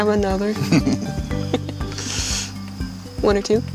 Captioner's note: laughing